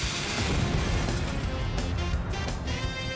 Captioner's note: lit fuse sound; explosion